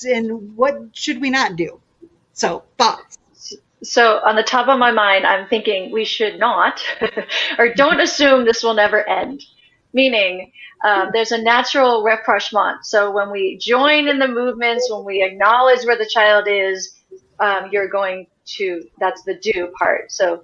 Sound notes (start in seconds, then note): 6.8 laughs